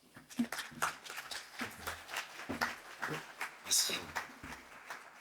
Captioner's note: applause